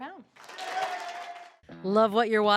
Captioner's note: audience cheers